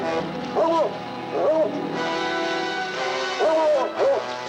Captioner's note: dog barking